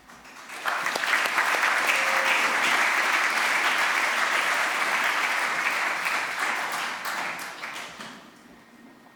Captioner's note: applause